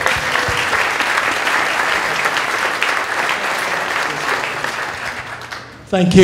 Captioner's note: applause